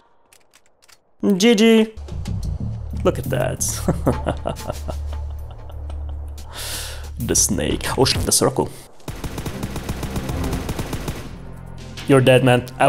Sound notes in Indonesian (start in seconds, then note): 3.7 ketawa jahat